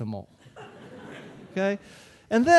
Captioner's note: audience laughing